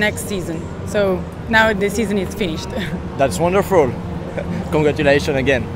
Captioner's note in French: rires